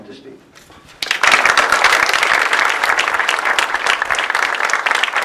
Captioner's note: audience clapping